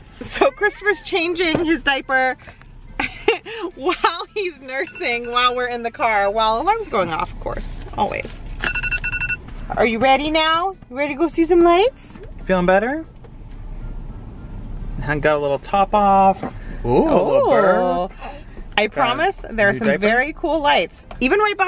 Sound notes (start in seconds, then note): 8.6 alarm rings